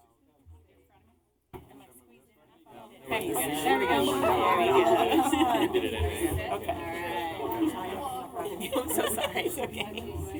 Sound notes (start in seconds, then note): 3.8 multiple voices; 8.5 laughter